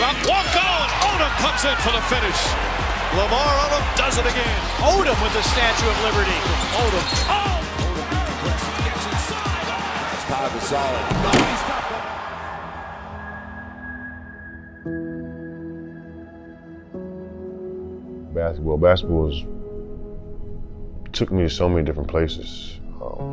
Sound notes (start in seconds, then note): 7.8 crowd cheers; 13.5 sound diminishes; 15.0 slow instrumental music